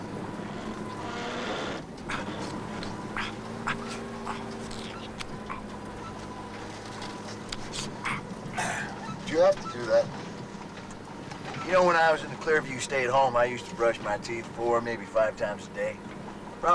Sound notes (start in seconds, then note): 1.3 truck creaks; 2.0 Latrell grunts